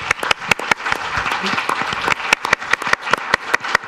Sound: audience claps

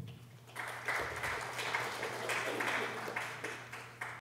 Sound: audience applause

